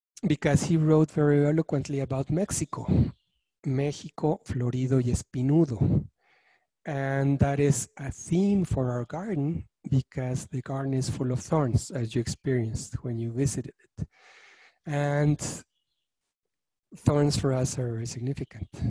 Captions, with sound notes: because he wrote very eloquently about Mexico, (speaking in foreign language), and that is a theme for our garden, because the garden is full of thorns, as you experienced when you visited it. And thorns for us are very significant